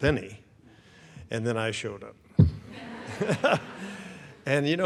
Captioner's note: audience laughs; laughs